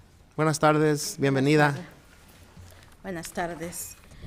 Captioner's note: speaking in foreign language